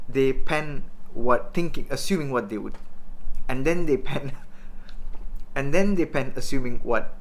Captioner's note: laughs